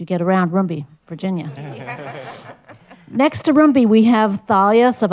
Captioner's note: laugh